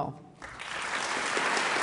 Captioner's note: applause